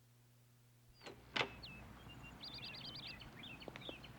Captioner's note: birds tweeting